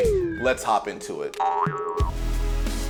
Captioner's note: spring boings; upbeat music